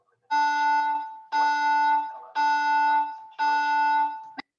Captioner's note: alarm blaring